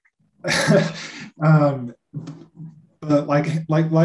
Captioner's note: chuckles